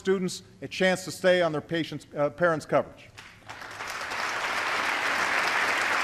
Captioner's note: applause